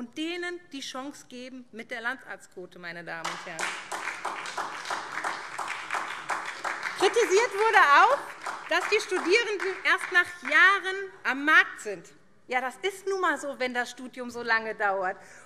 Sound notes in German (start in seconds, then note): 3.2 Beifall SPD